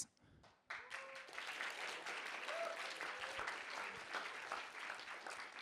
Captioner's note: applause